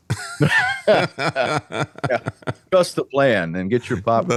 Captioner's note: laughing